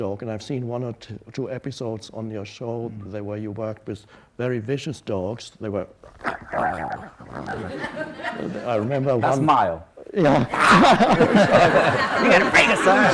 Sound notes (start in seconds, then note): 6.0 imitates slavering; 7.4 audience laughs; 10.3 Tolle and audience laugh